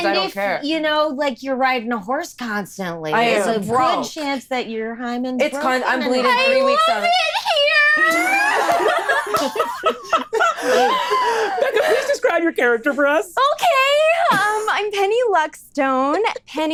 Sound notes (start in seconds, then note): 8.3 laughs